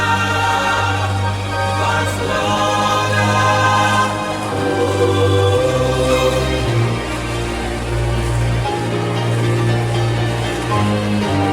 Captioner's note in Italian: Applauso